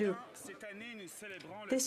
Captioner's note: some Applause